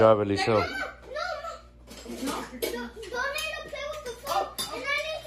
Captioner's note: child talking excitedly